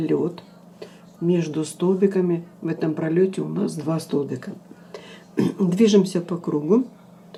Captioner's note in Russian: откашливается